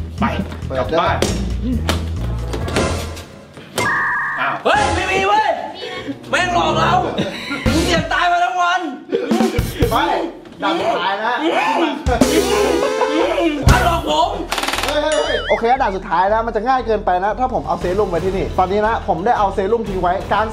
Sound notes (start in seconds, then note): 14.5 gunshot firing